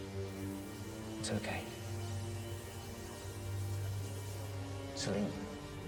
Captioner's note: staticky buzzing